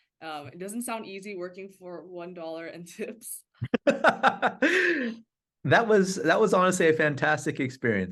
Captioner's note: laughs